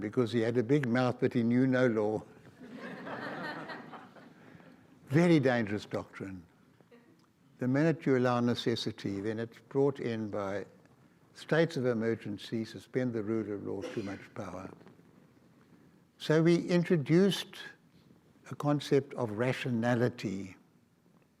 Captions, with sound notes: because he had a big mouth but he knew no law. (audience laughs) Very dangerous doctrine. The minute you allow necessity, then it's brought in by states of emergencies, suspend the rule of law, too much power. So we introduced a concept of rationality and rule of law.